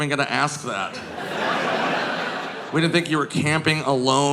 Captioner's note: audience laughing